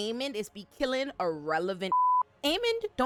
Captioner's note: beep